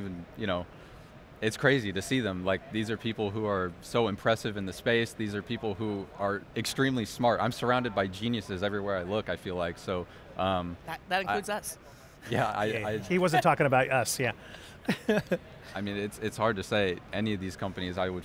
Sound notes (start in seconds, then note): 14.8 laughs